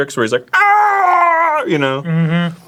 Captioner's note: screaming